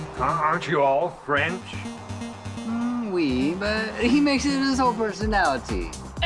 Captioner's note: none